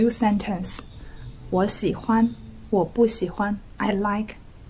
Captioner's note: speaking Mandarin